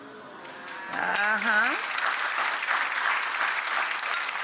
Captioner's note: crowd applauding